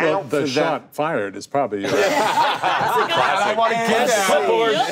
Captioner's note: group laughing